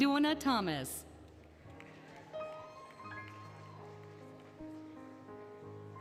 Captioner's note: applause, Cheering, Music